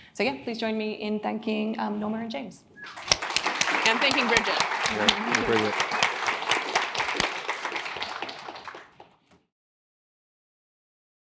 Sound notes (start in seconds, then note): 2.8 audience applauding